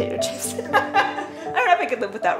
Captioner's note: laughing